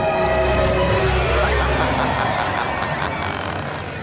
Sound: laughing

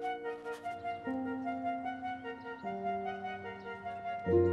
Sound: birds chirping

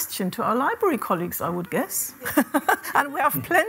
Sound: laughs

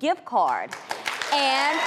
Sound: audience clapping

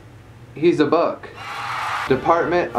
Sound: applause

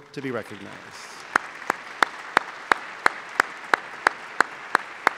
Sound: applause

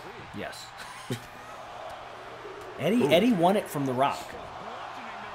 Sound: laugh

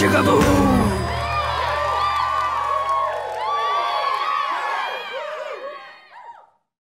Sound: friends cheering

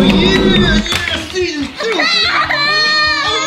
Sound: laughs

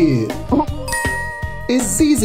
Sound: graphics dinging

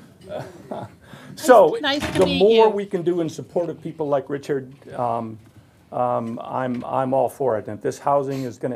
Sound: laughter

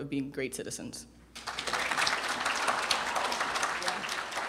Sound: applause

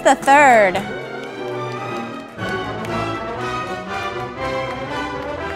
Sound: audience applauding

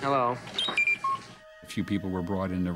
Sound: beep Beep Blip

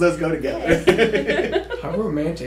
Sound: laughter

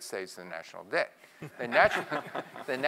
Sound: laugh

